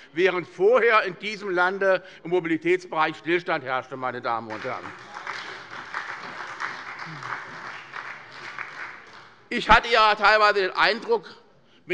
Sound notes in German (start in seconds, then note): 4.4 Beifall bei der SPD